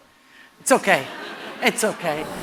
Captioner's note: laughter